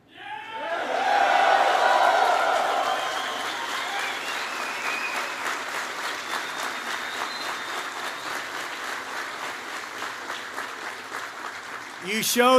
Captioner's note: applause